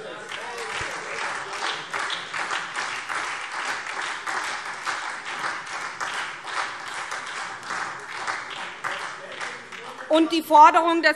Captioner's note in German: Beifall SPD